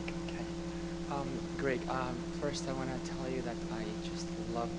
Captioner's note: voiceover